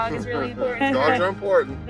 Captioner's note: laughter